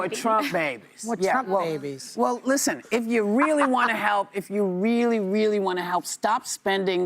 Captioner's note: audience reacts